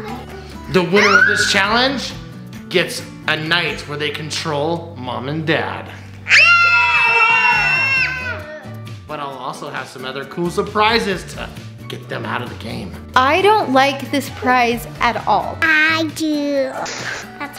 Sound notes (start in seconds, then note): 6.2 kids scream